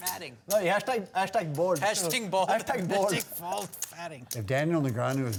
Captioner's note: laughs; laughs